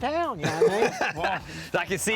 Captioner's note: laughs